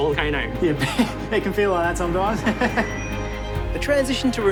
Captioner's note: laughs